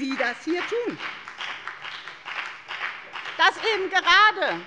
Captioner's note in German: Beifall bei der FDP